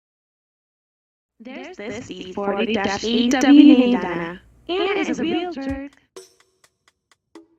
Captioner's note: echoing